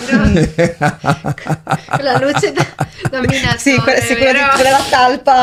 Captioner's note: laughs